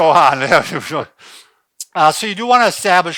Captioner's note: laughs